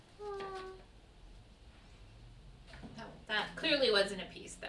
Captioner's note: high-pitched hum